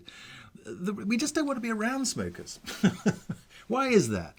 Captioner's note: chuckles